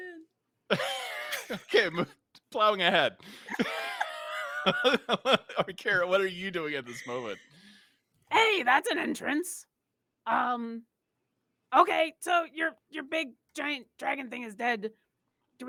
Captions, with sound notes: Plowing ahead. (laughing) Orkira, what are you doing at this moment? - Hey, that's an entrance. Okay, so your big giant dragon thing is dead.